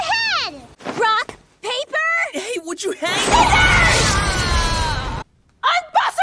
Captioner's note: AAAAaaaa